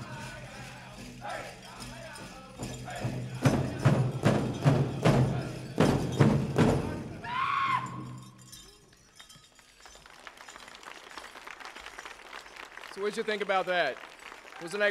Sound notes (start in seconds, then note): 0.1 regalia ornaments jingling; 2.6 drum beating intensely; 7.5 dancer chanting shout; 9.7 audience applauding